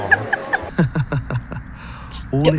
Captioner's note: laughs; Satan laughs